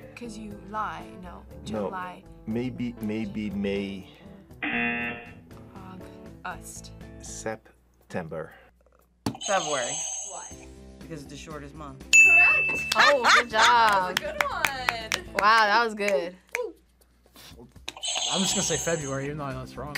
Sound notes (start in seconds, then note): 4.6 buzzer; 9.4 buzzer rings; 17.2 buzzer rings